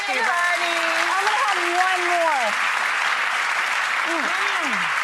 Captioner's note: audience clapping